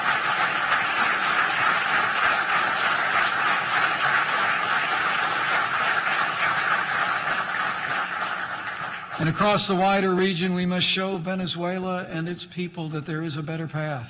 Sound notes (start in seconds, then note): 5.7 applause